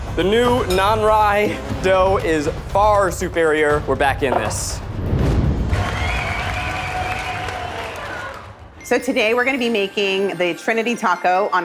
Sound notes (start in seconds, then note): 4.8 flames roaring; 5.6 crowd cheering